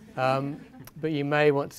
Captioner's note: audience laughing